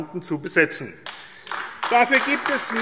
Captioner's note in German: Beifall AfD